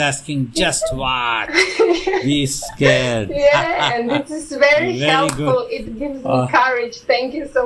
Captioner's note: laughs